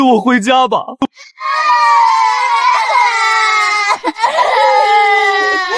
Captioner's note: crying